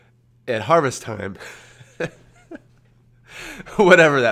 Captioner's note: laughs